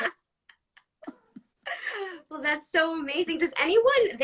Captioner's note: laughs